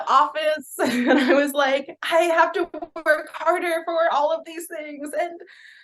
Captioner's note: laughs